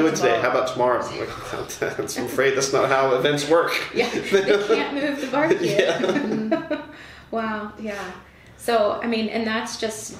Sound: laughter

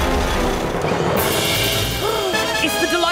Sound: gasps

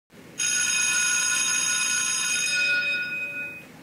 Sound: bell ringing

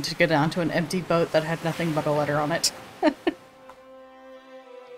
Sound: laughs

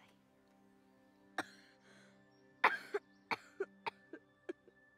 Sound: Mark coughs

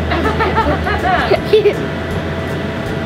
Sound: laughs

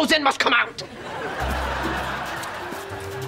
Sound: laughing

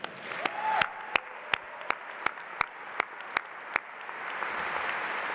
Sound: audience applauding

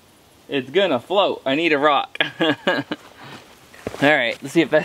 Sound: laughs

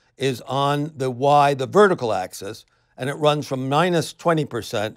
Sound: none

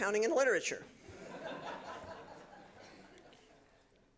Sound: laughter

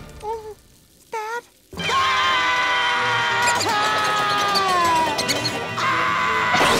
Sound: screaming

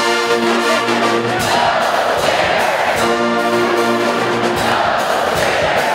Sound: Fans chanting Go Gators!

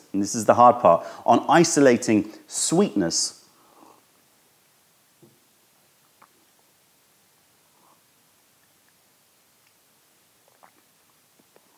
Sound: sips tea

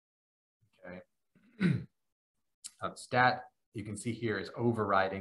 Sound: cough

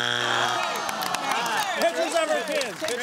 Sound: buzzer sounds; audience groans

